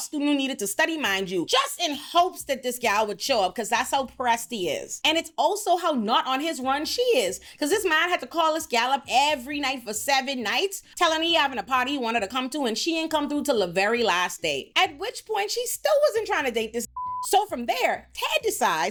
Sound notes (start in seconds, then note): 16.9 beep